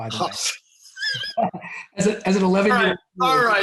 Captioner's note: both laugh